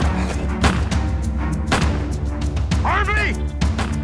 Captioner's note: glass shatters; gunfire continues